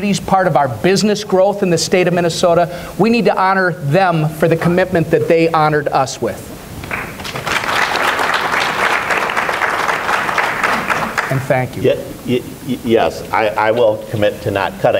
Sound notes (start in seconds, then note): 6.8 applause